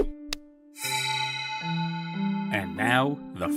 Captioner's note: shing